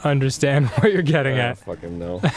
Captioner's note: mumbles